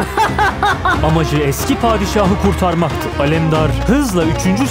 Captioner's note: laughs